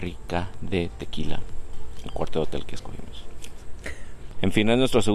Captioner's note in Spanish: risas